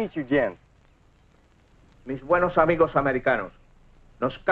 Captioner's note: General Tostada speaking in Spanish